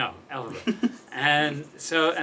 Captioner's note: laughs